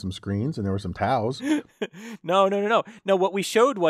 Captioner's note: laugh